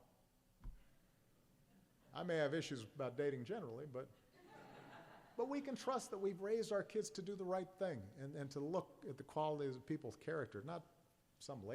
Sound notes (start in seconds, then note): 4.1 laughter